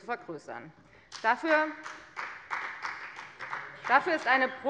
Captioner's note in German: Beifall bei der FDP